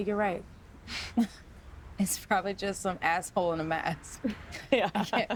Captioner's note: laughs